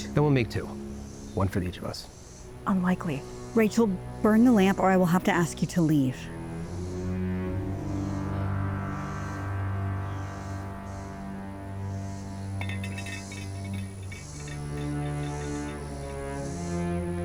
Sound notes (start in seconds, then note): 12.6 lamp tings